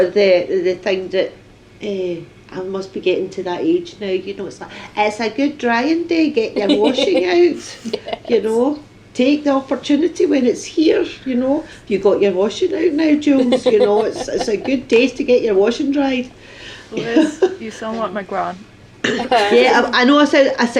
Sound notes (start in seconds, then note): 12.8 laughter; 16.9 laughs